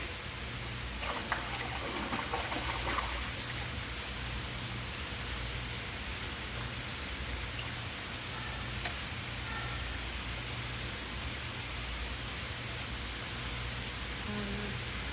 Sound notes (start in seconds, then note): 0.9 splashing